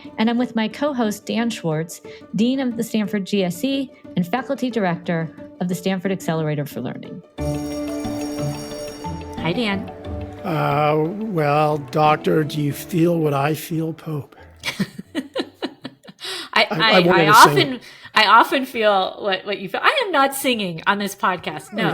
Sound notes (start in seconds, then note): 7.4 bell ringing; 8.7 upbeat music; 14.6 laughing